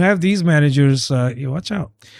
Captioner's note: uh